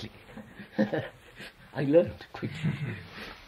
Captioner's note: laughs